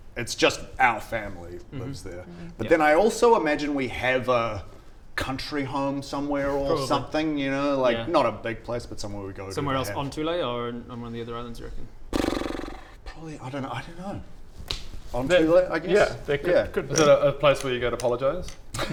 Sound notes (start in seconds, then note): 12.1 brrrrr